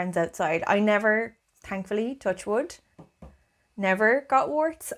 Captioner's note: taps on desk